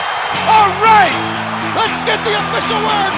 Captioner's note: audience cheers; bell rings